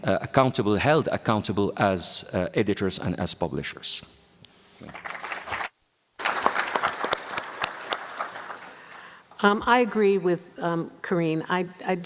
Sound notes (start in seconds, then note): 6.2 applause